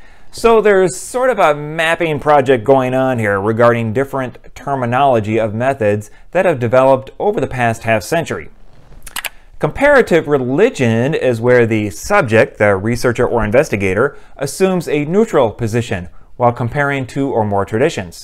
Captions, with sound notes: So there's sort of a mapping project going on here regarding different terminology of methods that have developed over the past half century. [mouse click] Comparative religion is where the subject, the researcher or investigator, assumes a neutral position while comparing two or more traditions.